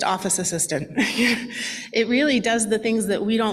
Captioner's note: laughs